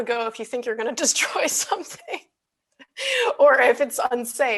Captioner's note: laughs